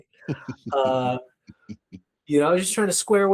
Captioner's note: laughing